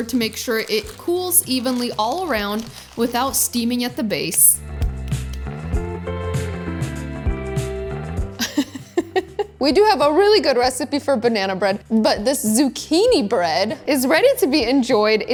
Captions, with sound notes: to make sure it cools evenly all around without steaming at the base. (upbeat music) (giggling) We do have a really good recipe for banana bread but this zucchini bread is ready to be enjoyed.